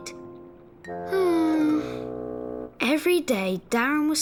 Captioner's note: sighs